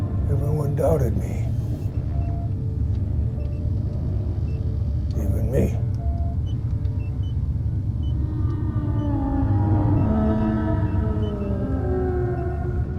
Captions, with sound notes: - Everyone doubted me. Even me. (machines beeping) (Aerozoan moaning in pain)